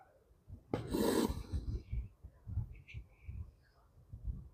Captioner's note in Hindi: नाक से की जाने वाली आवाज़